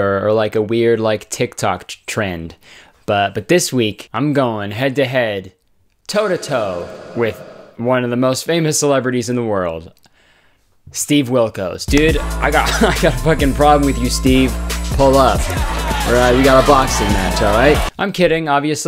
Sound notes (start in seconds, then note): 6.1 echo effect; 11.9 upbeat music; 12.4 laughs